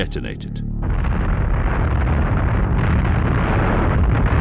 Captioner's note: bomb exploding